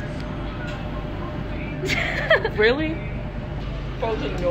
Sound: laughter

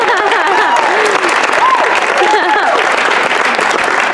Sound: applause

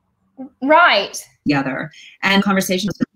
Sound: audio gets distorted

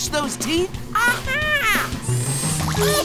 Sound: squeaking

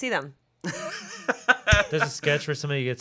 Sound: laughing

